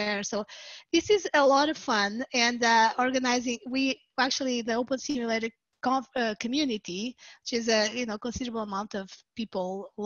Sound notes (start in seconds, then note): none